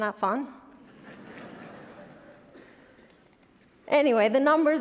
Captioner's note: attendees laughing